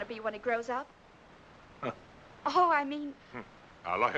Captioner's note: chuckles softly